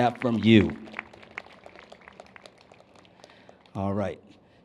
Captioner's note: applause